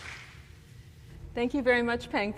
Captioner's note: applause